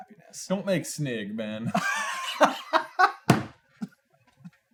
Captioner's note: laughs